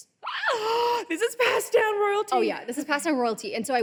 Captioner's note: gasps